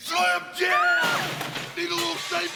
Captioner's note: person screaming